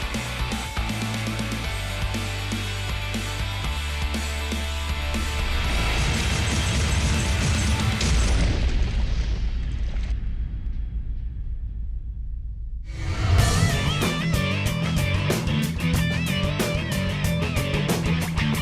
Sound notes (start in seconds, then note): 11.4 booming; 12.9 heavy rock and roll music